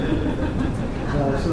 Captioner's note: laughter